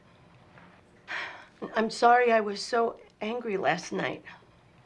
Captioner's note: sighs